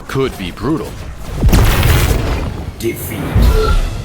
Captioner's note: boom!